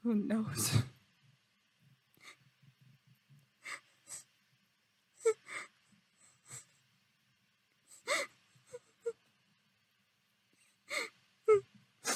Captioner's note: crying